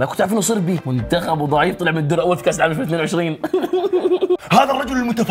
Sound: laughs

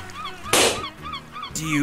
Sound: beach ball pops

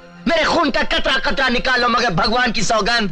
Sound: none

